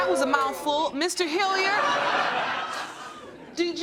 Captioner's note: laughter